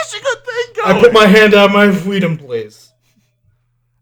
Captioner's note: slurred